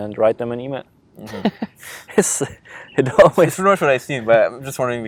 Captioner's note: laughing